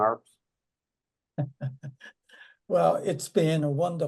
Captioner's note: chuckles